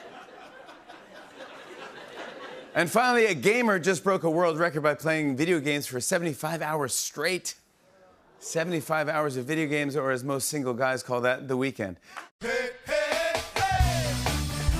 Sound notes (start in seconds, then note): 2.3 normal voice